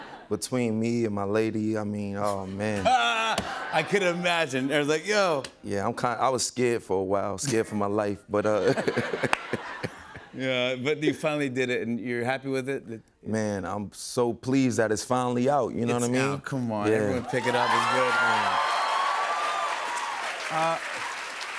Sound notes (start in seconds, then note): 8.5 laughter; 17.1 cheers and applause